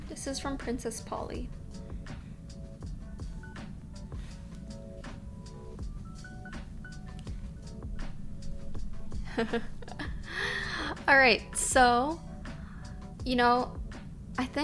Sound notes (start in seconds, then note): 9.2 laughing